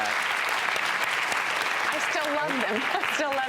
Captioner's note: audience applauds